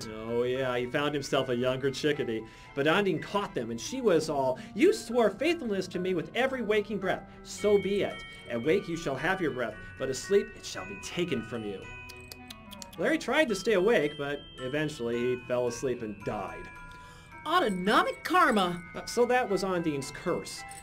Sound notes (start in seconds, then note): 12.0 clucks tongue